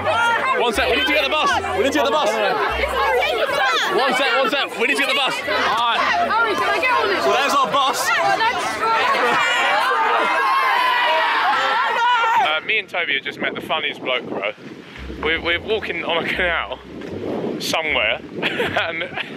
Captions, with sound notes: - We need to get the bus. We need to get the bus. One sec. One sec, we need to get the bus. So there's our bus. (students shouting) - Me and Tobi just met the funniest bloke, bro. We were walking on a canal somewhere.